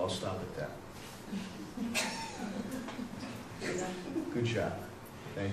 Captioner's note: chuckle from the audience